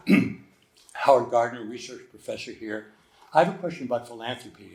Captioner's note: clears throat